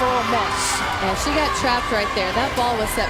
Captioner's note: voiceover